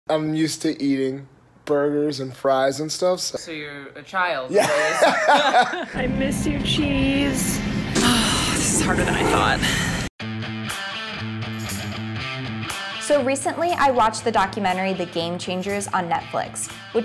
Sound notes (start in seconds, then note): 4.5 laughing; 10.3 upbeat music